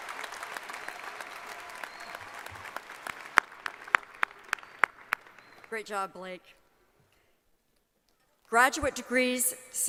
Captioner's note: applause